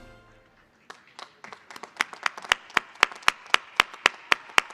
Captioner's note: applause